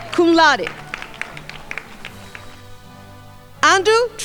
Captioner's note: crowd applauding